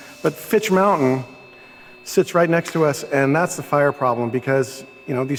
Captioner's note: none